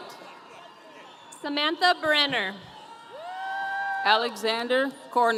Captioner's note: audience cheering